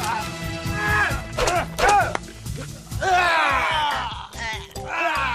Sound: both grunt, scream

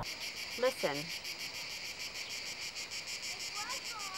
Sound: cicadas chirping

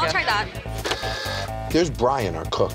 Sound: printer whirring

